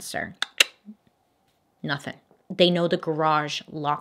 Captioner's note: clicks tongue